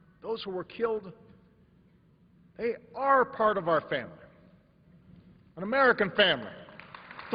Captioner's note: applause